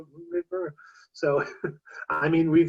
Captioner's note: chuckles